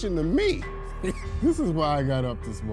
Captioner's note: judge laughing